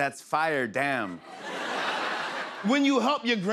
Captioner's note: laughter